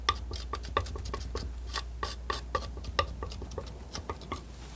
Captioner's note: scratching